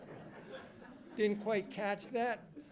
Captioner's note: attendees laughing